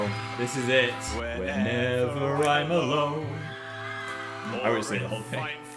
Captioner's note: smooth music; crowd screaming